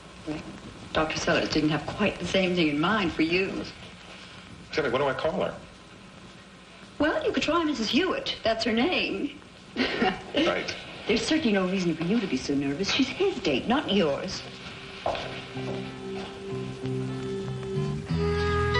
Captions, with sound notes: when I came to Dixon Mills? >Well, Dr. Sellers didn't have quite the same thing in mind for you. >Tell me, what do I call her? >Well, you could try Mrs. Hewitt. That's her name. (chuckles) >Right.. >There's certainly no reason for you to be so nervous. She's HIS date, not yours.